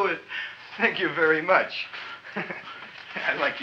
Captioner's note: chuckles